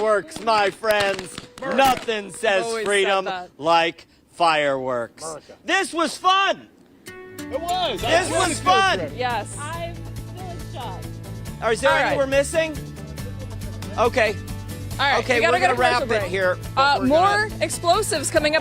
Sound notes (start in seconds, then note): 2.6 applause